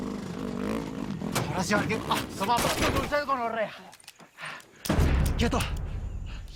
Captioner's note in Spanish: Disparo